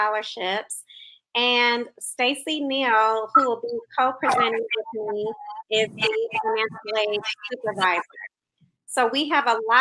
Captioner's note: technical glitch